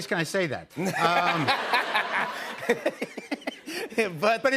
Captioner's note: laughter